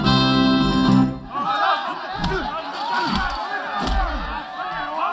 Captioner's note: punching, cheering